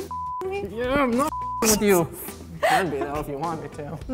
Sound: beep

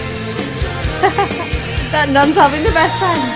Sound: laughs

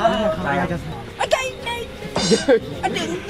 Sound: mocking; laughs

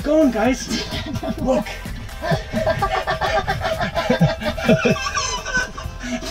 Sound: laughing

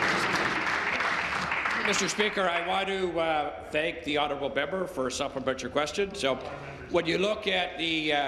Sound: applause

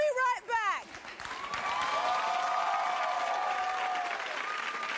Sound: audience applauding

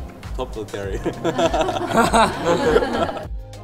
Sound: laugh

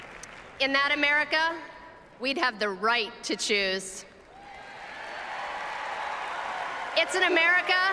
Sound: applause

